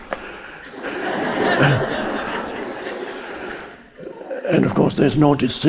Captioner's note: audience laughing